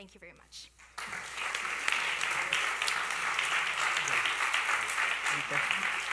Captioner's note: applause